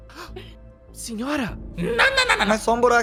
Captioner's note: gasps